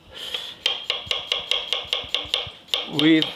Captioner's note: knife thumping